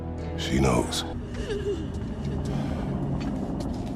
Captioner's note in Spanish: llanto desconsolado